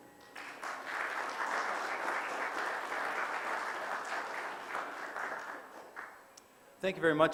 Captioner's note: audience applause